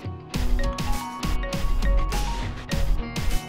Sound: phone ringing

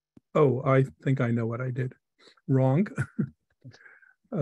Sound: laughs

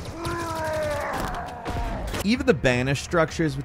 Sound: enemy roaring

